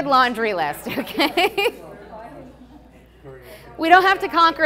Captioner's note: everyone laughing